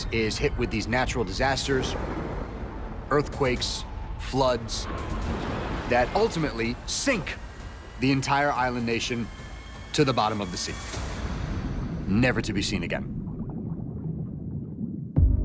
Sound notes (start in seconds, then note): 4.8 water roaring; 13.0 water gurgling; 15.2 dramatic music